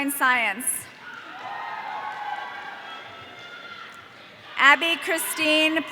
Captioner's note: audience cheering